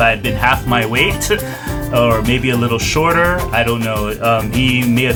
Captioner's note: laughs